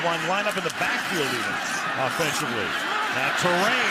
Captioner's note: cheering